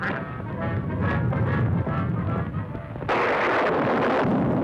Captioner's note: thunder rumbling; thunder crashing